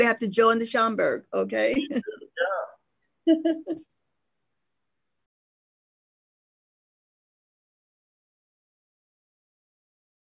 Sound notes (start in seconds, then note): 3.2 laughs